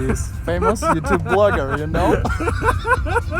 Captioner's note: is laughing